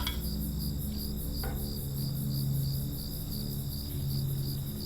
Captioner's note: crickets chirping; shovel scraping